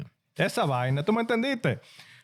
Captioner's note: speaking In Foreign Language